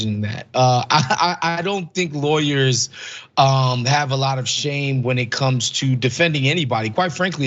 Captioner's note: laugh